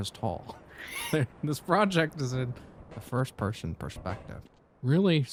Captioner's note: both laugh